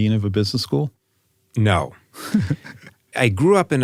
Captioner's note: laugh